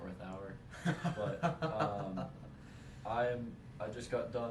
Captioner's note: pained laugh